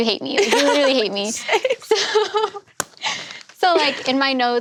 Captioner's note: laughing